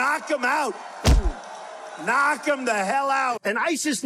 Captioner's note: cheering; thudding